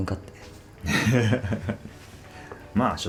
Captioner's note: laughs